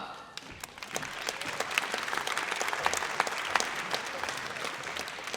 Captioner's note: audience applauds